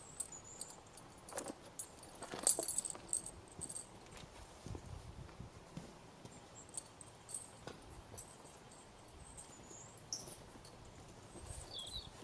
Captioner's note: sound of movement